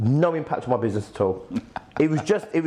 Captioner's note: laughs